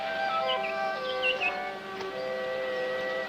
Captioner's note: birdsong